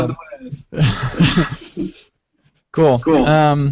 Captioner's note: laughter